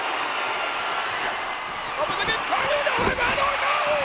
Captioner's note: audience cheering